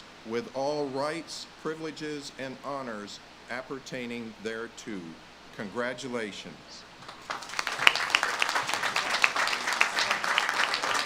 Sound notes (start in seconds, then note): 7.0 audience claps